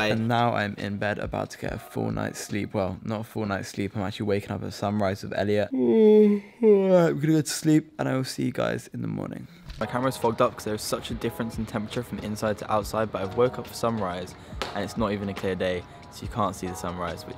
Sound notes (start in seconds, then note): 5.7 yawns